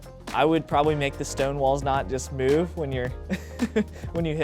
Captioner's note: laughs